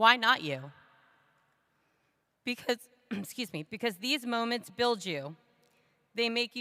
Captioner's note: ahem